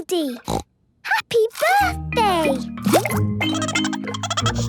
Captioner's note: snorting; Goldie giggling